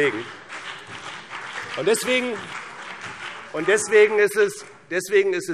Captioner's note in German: Beifall BÜNDNIS 90/DIE GRÜNEN und CDU